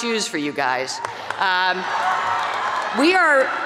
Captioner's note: graduates cheer